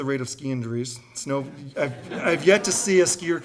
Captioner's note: audience laughing